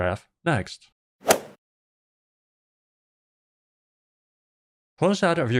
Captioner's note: golf ball hit sound